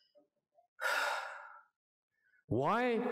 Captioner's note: sigh